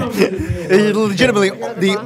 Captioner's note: laughing